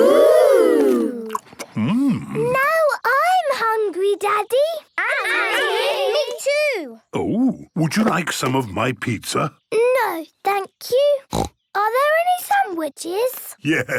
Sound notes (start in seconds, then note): 11.2 snorting